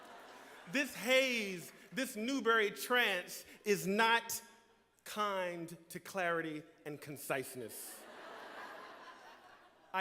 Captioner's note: laughter